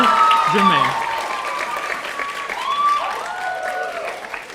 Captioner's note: audience cheering